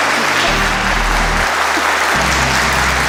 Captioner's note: electronic music; laughs